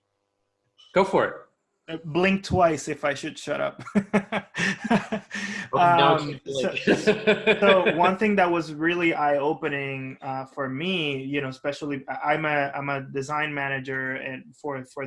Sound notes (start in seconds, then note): 3.8 laughs; 7.1 people laughing